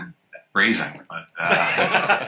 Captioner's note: laughter